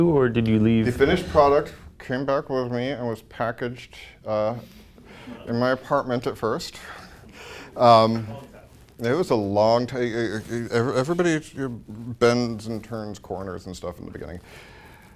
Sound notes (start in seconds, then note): 2.2 speaking through the teeth; 6.8 chuckles; 9.9 stutters